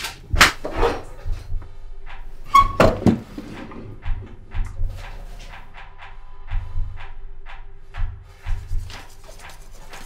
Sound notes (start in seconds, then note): 0.1 music rises; 8.4 brushing noises